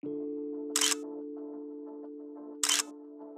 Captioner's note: gentle music; camera shutter clicks